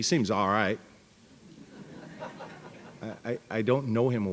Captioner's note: laughter